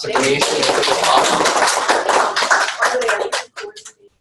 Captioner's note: applause